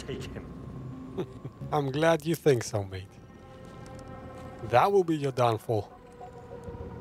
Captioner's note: laughs